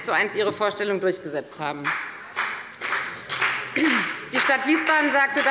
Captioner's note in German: Beifall bei der FDP